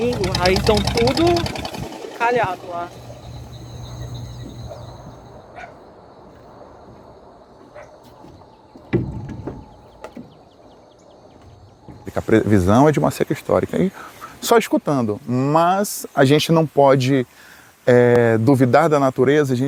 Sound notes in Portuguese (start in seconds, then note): 0.0 som de motor; 4.0 som de insetos e pássaros; 7.9 som de passos na tábua de madeira